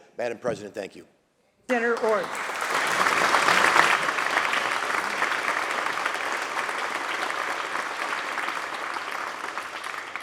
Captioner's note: applause